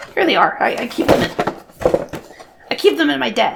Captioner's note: fumbling noises